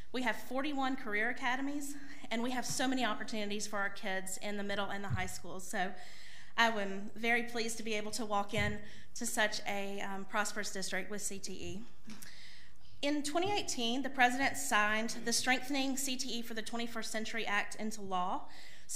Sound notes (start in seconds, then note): none